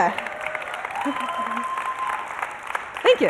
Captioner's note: applause and cheering